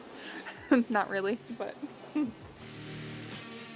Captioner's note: giggling; rock music